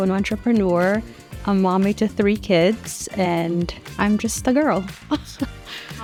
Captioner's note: laughs